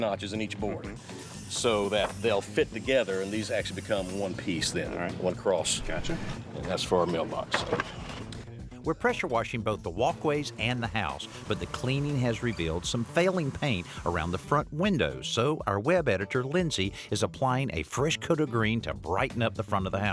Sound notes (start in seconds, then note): none